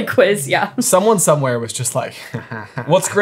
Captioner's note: chuckling mockingly